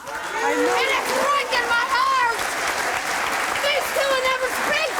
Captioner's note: applauding